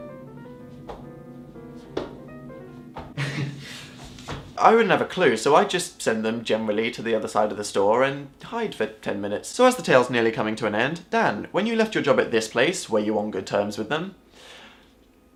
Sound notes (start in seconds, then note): 3.2 laughs nervously